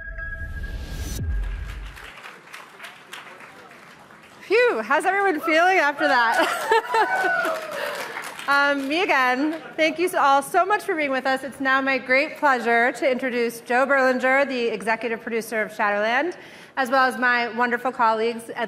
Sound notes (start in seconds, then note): 2.0 audience applauding; 6.2 audience applauding